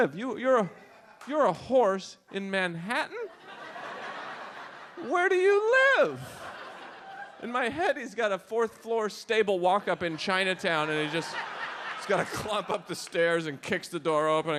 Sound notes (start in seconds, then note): 3.2 audience laughs